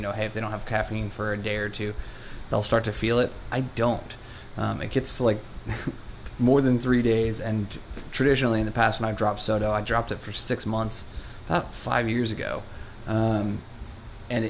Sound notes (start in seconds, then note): 5.7 laughs